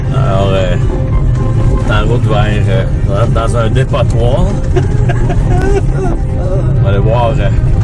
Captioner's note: laughs